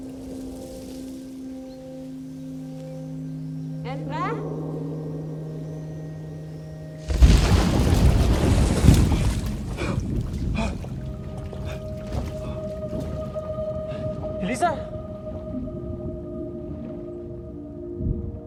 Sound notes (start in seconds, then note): 0.2 angelic music continues; 7.0 thunderous sound under water; 11.3 angelic music continues